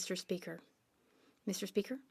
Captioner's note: speaking French